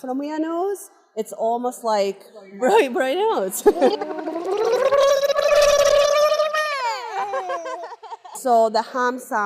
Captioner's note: nose blowing sounds